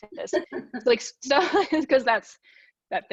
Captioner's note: laughs